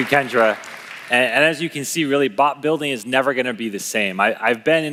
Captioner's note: applause